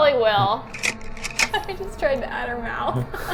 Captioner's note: camera clicks